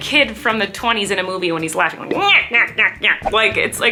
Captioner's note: imitates laughing